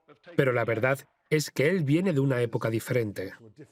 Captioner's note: voiceover